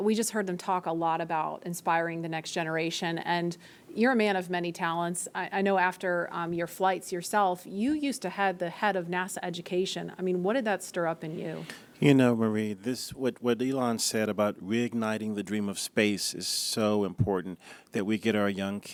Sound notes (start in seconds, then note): none